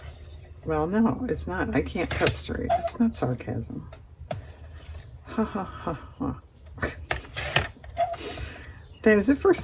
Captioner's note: laughs